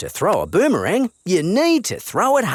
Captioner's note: none